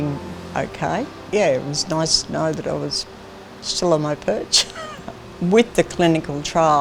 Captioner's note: laughs